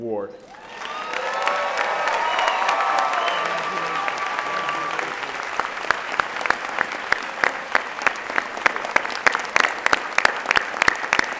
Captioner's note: applause